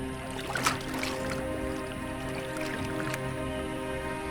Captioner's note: water splashing; birds chirping